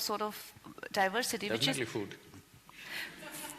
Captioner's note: few laugh